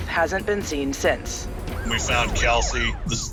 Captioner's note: siren wailing